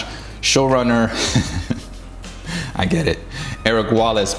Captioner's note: chuckles